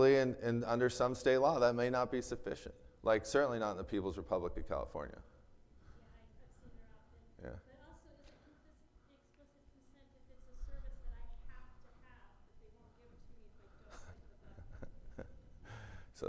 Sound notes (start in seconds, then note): 7.8 faintly speaks; 13.6 faintly speaks; 13.7 chuckles